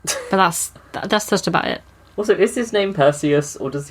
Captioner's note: laughs